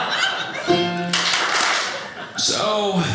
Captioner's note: audience laughing; piano plays; audience claps